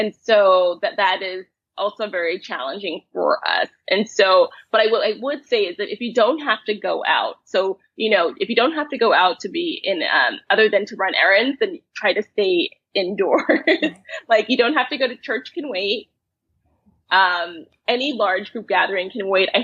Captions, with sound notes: - And so that that is also very challenging for us. And so, but I will, I would say is that if you don't have to go out so you know, if you don't have to go out to be in other than to run errands then try to stay indoors (laughs). Like you don't have to go to church, it can wait. Any large group gathering can wait.